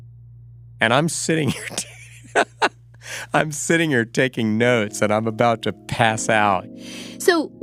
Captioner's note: laughs